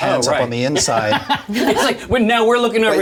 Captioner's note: all laugh